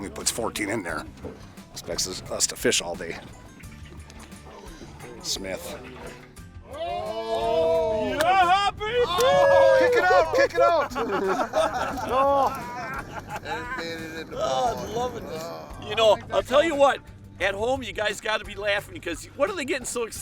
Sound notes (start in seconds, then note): 7.2 yelling; 12.1 laughing